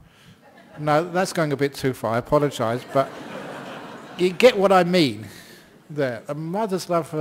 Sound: laughter

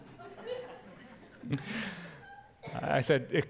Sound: pastor: Laughter

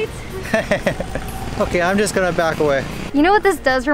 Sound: laughs

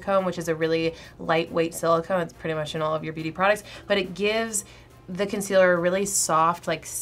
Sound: none

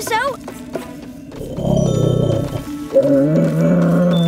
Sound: purring

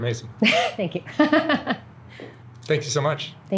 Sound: laughs

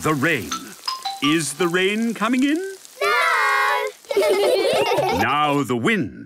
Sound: laughter

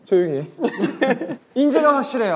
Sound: laughter

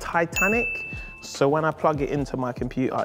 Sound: ding

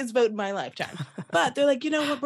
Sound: laughter

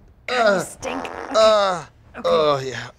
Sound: passing gas

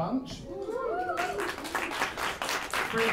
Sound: applause

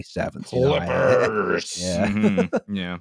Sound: laughter

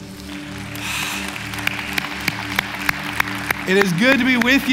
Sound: applause

